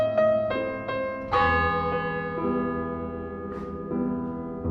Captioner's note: a funeral toll. piano continues